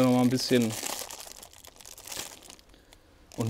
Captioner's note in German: Verpackung knistert